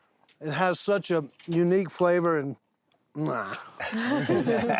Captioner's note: chewing noisily; everyone laughing